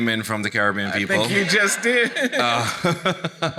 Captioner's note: laughing; chuckles